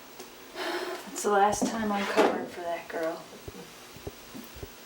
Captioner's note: sighs